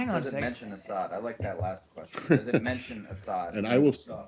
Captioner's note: laughter